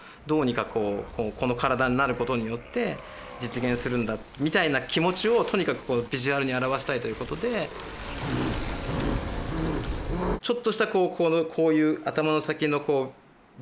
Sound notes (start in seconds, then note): 8.1 grunting